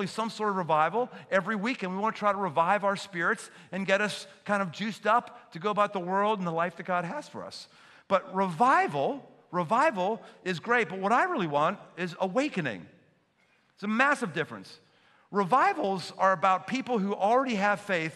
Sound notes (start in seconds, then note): none